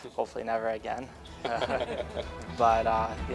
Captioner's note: Media laughs